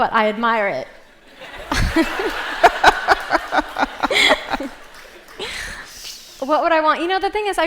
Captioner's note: laughter